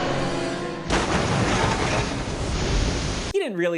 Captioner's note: large boom, truck colliding